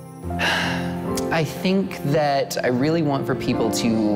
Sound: sighs

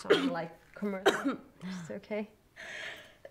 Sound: coughing

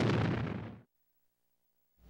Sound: man Announcing

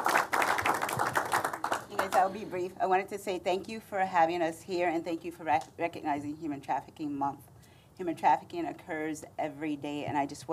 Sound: applause

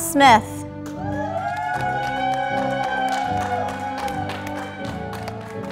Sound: audience applauding

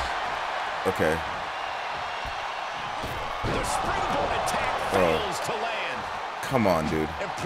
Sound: applause

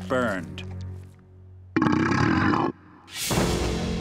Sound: burping

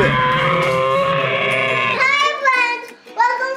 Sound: dinosaur rawr

